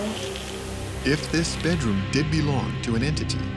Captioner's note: voiceover